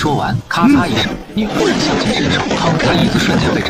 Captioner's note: crack; bang